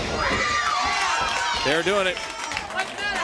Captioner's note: crowd cheering